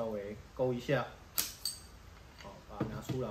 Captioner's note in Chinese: 喀！鏘！